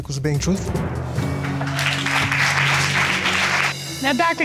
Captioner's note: audience applauding